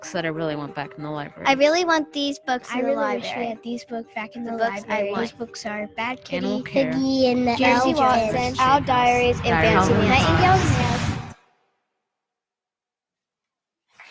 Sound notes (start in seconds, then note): 9.4 overlapping chattering